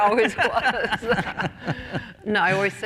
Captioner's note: laughter